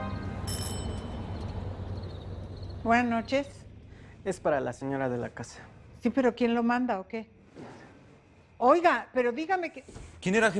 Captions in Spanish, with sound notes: [Timbre de la puerta] - BUENAS NOCHES. - ES PARA LA SEÑORA DE LA CASA. - SI, ¿PERO QUIEN LO MANDA O QUE? !OIGA! PERO DIGAME QUIEN...